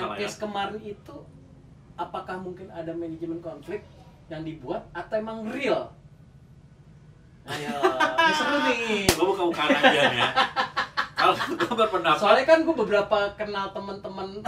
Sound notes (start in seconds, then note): 7.5 laughs